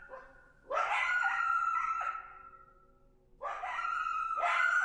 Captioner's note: coyote howling